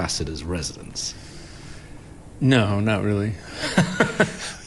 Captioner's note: laughs